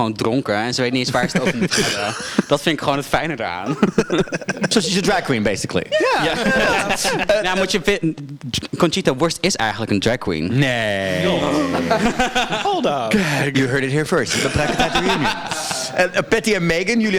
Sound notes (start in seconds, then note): 13.0 gay gasp